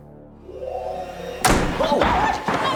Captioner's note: door slamming; shouting